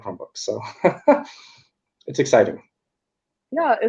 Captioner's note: laughs